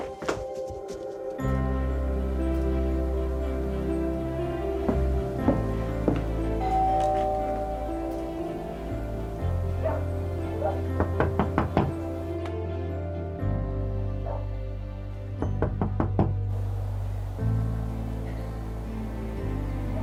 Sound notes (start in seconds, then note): 6.5 door bell; 9.8 dog barking; 11.0 knocking on door; 15.5 knocking on door